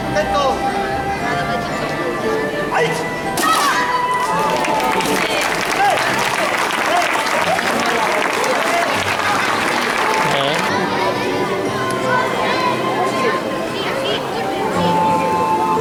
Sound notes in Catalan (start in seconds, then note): 4.2 Aplaudiments; 10.6 Música i una mica de renou de la gent